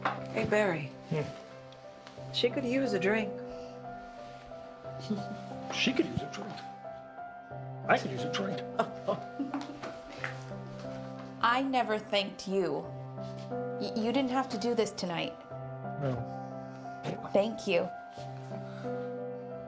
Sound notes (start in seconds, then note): 5.0 Joan laughs; 8.6 laughs